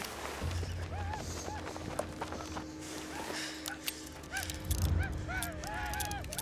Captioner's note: paiutes whooping